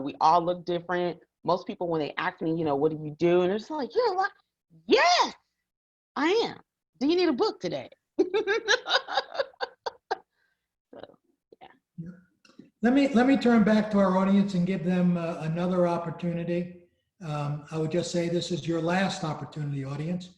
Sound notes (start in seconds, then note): 8.2 laughs